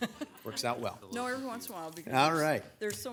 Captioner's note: group laughs